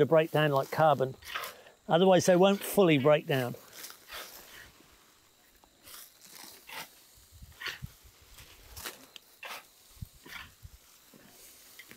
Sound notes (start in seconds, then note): 4.8 insects chirping; 5.8 tools scraping; 6.9 material rustling